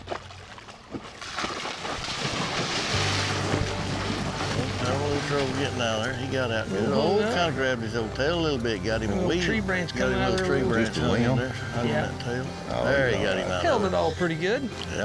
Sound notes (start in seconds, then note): 0.0 water splashing; 10.2 all chattering